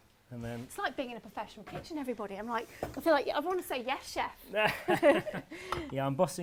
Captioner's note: laughs